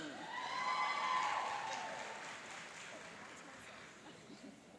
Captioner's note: cheering and applauding